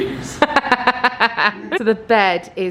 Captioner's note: laughs